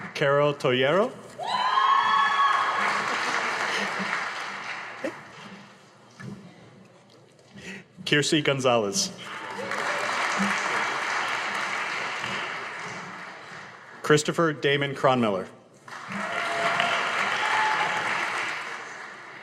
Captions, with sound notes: Carrol Torreyo. (audience applauding) Tracy Gonzalez. (audience applauding) Christopher Damon Cronnoy. (audience applauding)